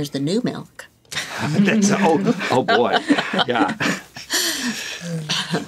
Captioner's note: all chuckling